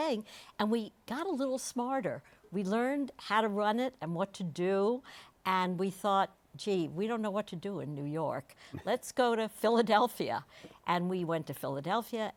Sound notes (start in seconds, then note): none